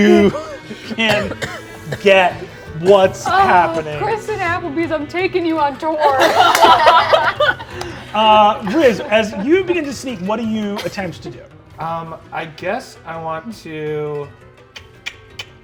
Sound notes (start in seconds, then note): 6.0 players laughing